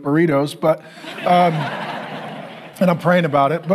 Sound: congregation laughing

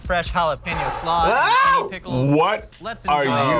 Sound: exhales

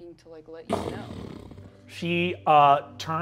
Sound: Tracker growls

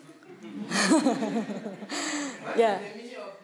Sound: laughing

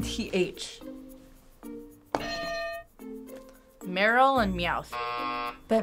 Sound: buzzer

